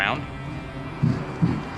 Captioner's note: footsteps pounding